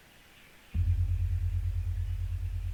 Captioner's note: gong sound